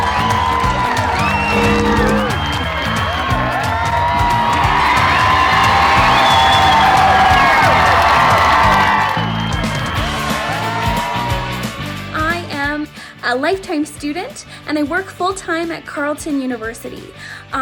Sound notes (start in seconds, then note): 0.2 fans on shore applauding and cheering; 3.4 cheers and applause from the crowd gets much louder as she steps on shore